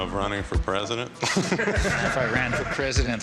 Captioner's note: audience laughing